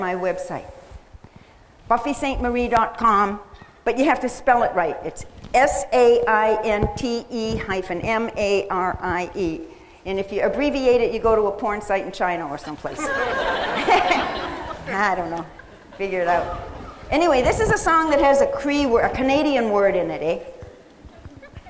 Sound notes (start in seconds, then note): 12.9 laughter